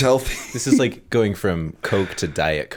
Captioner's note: chuckle